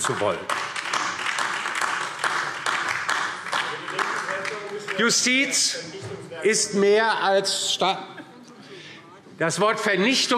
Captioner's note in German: Beifall